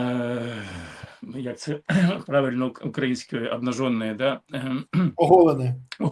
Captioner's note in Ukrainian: прочищення горла